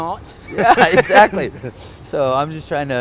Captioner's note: laughs